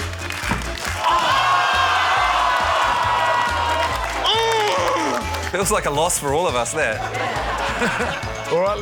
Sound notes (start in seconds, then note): 0.9 audience shouts; 4.3 grunts in frustration